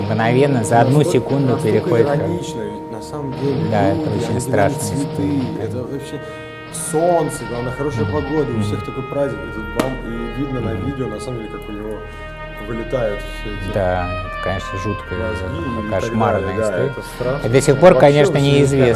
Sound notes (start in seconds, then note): 9.8 bam